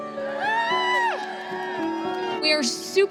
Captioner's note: cheering